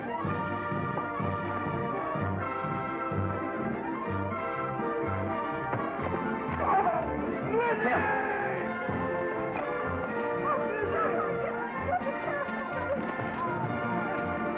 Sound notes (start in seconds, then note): 0.0 jukebox plays upbeat music; 5.7 thump; 8.7 jukebox plays upbeat music